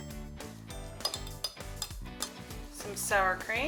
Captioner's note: spoon stirring